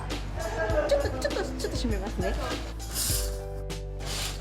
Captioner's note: speaking japanese